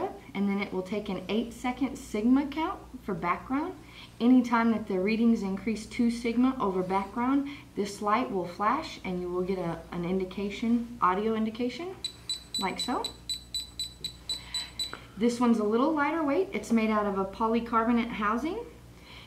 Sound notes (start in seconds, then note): 12.0 alarm beeps